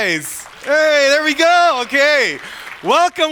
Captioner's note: audience applauds